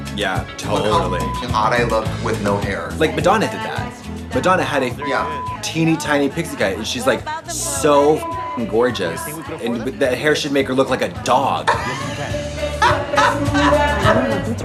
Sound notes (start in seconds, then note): 0.7 beep; 4.9 beep; 8.1 beep; 11.2 Trixie laughs